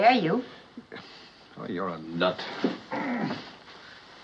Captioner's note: groans